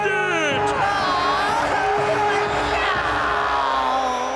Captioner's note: cheering